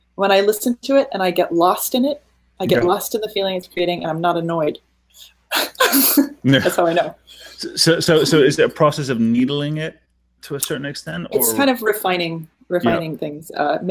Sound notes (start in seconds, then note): 5.5 laughing